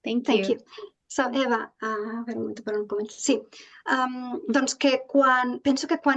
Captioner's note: speaking in Catalan